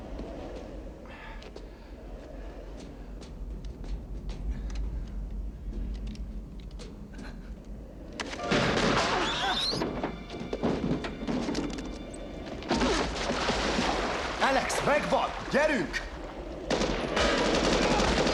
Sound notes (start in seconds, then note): 2.9 whispering; 9.8 grunts